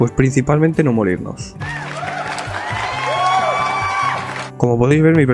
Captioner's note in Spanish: Sonidos aplausos